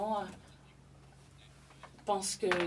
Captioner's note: speaking French